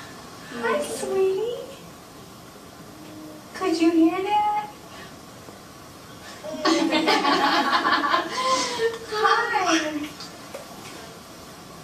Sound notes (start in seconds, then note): 6.6 laughter